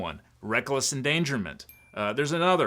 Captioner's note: bell chimes